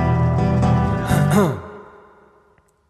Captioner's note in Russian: прочищает горло